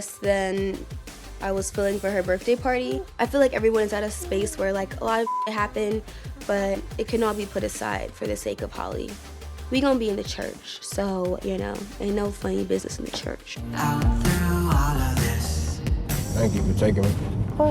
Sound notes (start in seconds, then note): 5.2 beep